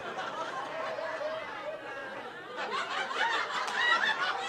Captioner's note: audience oohing; audience laughing